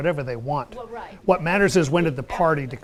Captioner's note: voiceover